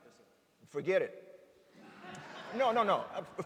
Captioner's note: laughter